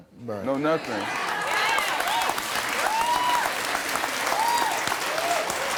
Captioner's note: audience applauding